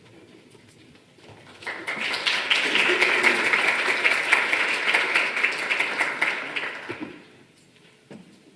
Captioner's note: applause